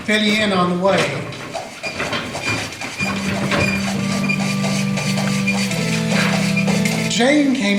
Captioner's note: creaking wagon wheels